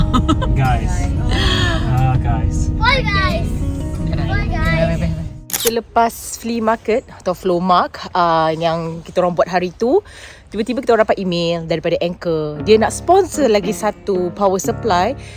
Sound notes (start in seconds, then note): 0.0 laugh; 5.5 camera snap